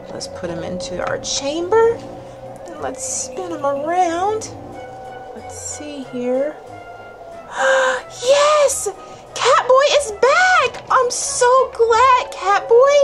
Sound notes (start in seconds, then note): 7.4 gasps